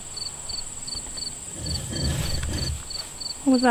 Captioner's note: something heavy dragging